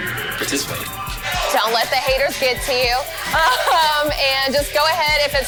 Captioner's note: laughs